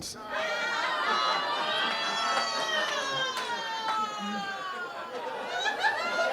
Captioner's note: people jeering; audience laughing